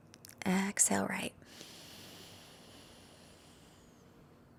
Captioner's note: exhales deeply